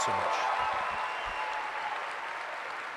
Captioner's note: applause